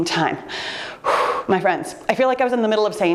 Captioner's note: puffing air